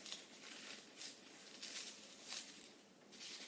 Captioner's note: dry garlic skins rustling